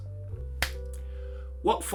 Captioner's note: clap